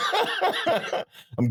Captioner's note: laughing